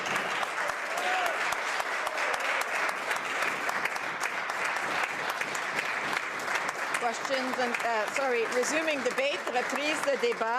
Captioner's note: applause